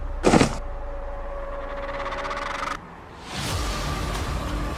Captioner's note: gun shoots; body falls; dramatic music